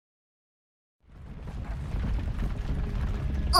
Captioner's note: rumble